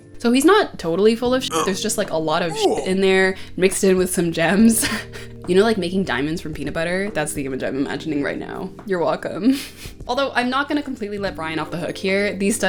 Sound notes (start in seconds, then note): 2.4 grunt